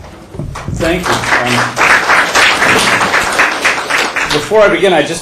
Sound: applause

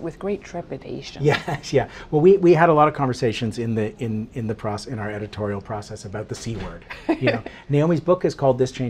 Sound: laughs

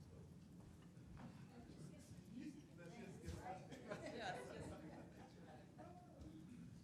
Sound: people chattering and laughing softly

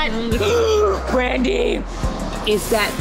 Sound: gasping loudly

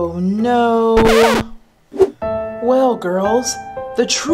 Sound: record scratching

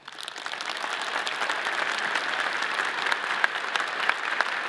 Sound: audience applauding

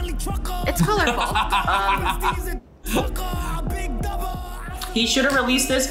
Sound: laughs

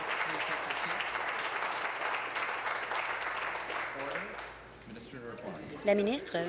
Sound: applause

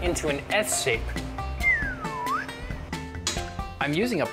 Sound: whistles

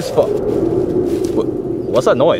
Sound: wind roaring

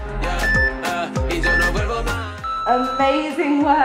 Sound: timer beeping

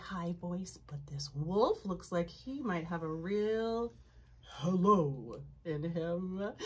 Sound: uses low voice

